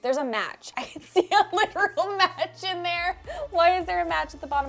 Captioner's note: laughing